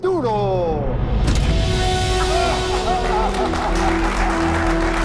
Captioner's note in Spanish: Aplausos